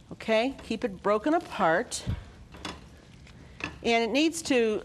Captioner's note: sizzling